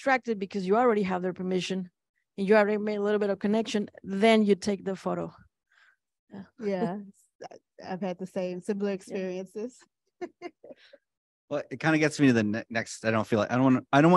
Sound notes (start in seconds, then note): 10.2 chuckles